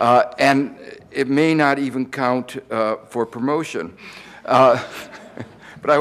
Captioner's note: laughs